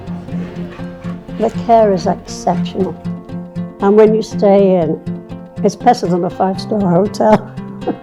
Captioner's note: laughing